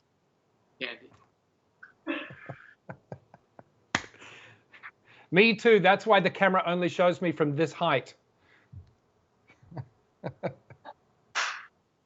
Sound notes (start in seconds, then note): 5.5 all chuckles